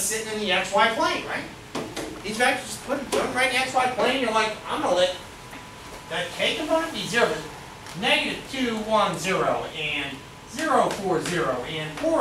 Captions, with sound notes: - There you go, think of this as just sitting in the x-y plane, right? These vectors are putting, (speaks softly) inside plane, you're like, I'm gonna let, that K component be zero. Negative 2, 1, 0, and 0, 4, 0,